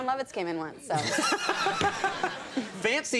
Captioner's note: laughter